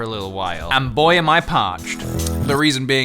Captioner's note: slurp